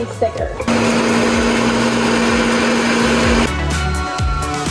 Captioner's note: blender whirring; upbeat music